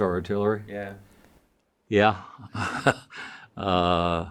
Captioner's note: chuckles